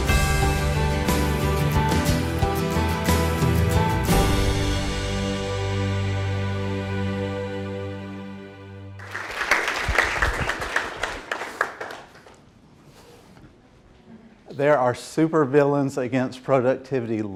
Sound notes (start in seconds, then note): 9.0 applause